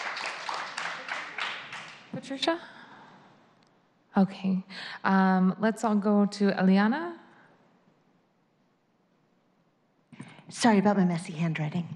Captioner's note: applause